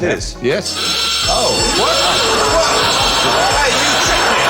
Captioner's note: klaxon!